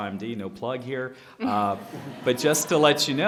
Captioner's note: laughter